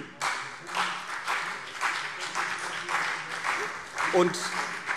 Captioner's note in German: Beifall CDU und BÜNDNIS 90/DIE GRÜNEN